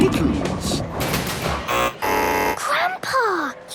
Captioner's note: buzzing